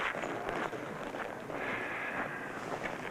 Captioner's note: sighing